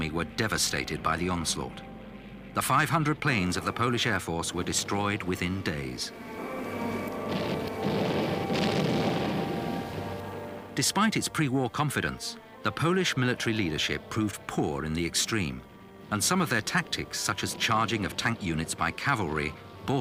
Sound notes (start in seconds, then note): 7.2 bombs blasting